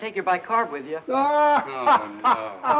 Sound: laughing

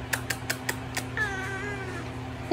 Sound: meow

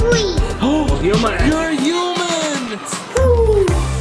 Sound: gasps

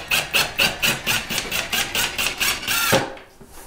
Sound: drilling

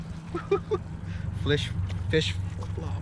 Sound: chuckling

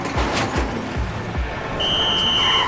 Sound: blowing whistle

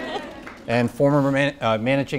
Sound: audience cheering

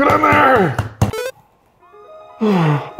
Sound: pause sound effect; sighs

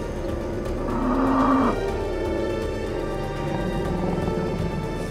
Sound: bison grunts

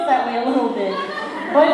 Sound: laughter

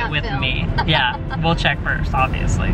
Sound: laughs

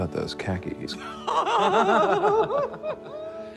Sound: laughing

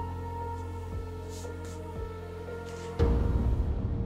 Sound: hand rubbing paper; melancholy piano music

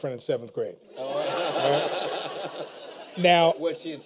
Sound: laughter

